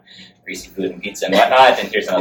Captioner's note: laughs